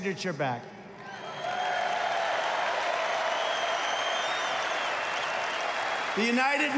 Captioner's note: applause